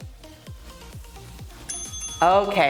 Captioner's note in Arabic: رنين الجرس